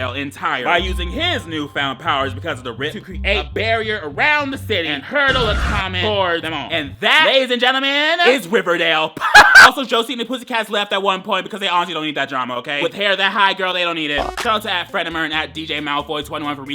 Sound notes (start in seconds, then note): 9.2 laughs